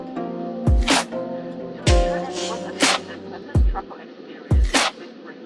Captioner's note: intercom announcement